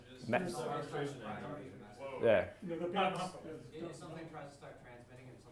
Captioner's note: murmurs